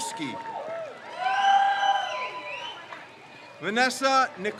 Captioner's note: crowd cheers